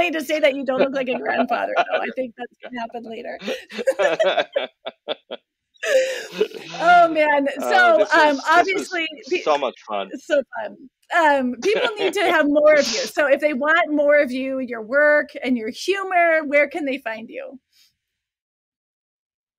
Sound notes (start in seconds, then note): 3.4 laughter